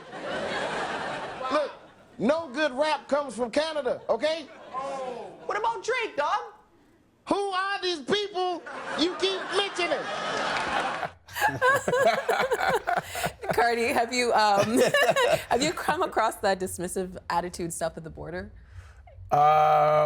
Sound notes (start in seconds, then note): 0.0 crowd laughing; 8.6 crowd laughing; 12.2 everyone laughing